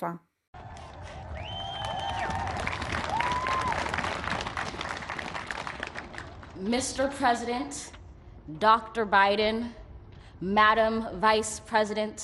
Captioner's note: applause